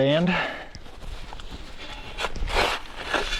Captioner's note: digging